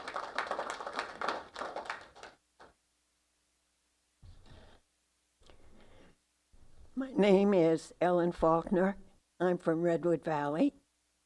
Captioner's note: applause